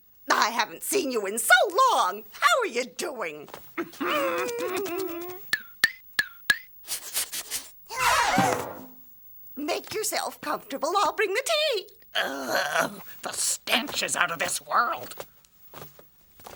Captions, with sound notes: I haven't seen you in so long. How are ya doing? (chuckling) (sniffing and gasping) Make yourself comfortable, I'll bring the tea! (groans) - The stench is out of this world!